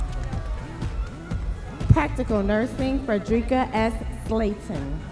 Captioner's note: audience members cheering